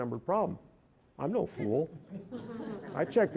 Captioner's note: audience laughing